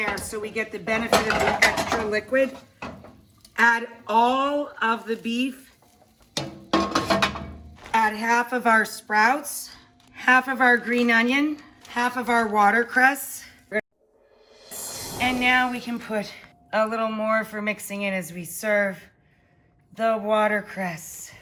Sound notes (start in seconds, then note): 6.3 metal pans clinks; 14.3 air whooshes